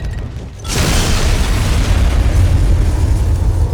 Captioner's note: booming